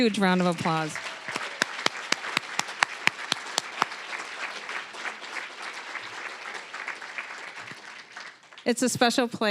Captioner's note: applause